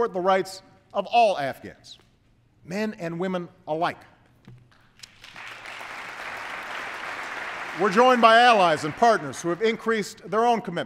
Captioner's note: applause